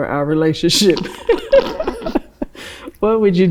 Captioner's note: laughs